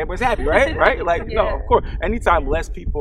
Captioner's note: panelists babbling